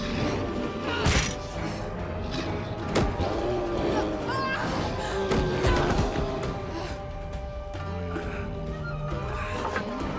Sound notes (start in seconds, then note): 4.0 Jess yelping; 7.0 lively tempo music